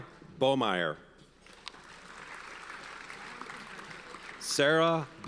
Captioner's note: audience applauds